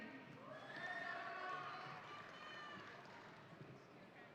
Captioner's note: audience cheering